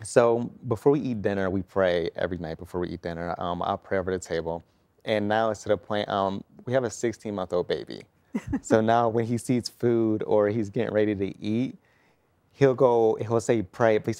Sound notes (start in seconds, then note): 8.3 giggling